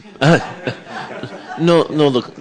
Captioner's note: laughter